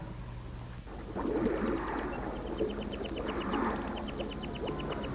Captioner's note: waves washing